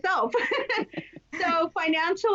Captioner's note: laughs